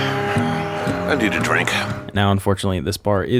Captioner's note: Anthony exhaling deeply